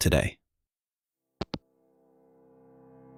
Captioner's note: hangup